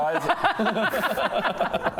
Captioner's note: technically correct laughter